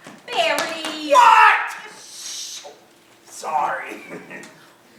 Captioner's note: shhhh! heard from off screen